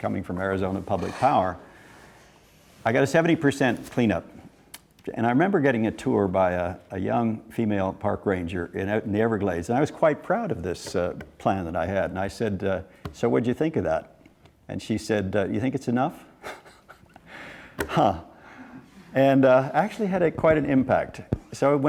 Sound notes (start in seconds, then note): 16.4 laughing